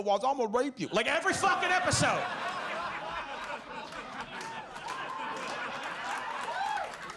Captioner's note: audience laughs